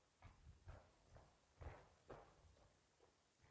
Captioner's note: footsteps below